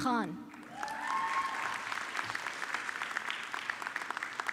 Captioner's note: audience clapping